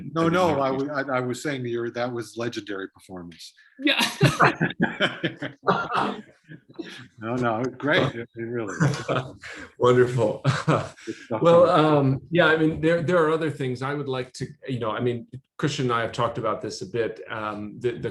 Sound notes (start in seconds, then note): 4.0 laughter